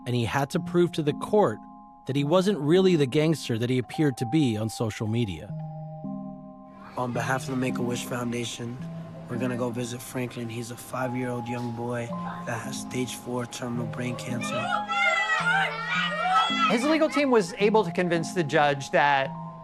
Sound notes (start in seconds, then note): 14.0 children cheering